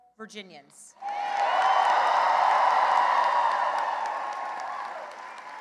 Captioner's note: cheering and applause